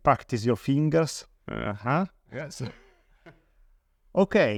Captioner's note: laughs